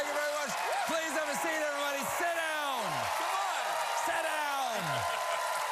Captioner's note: cheers and applause